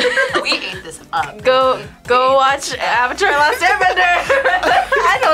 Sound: laughs; laughs

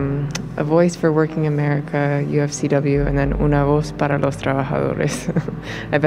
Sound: chuckles

